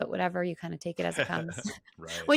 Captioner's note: laughs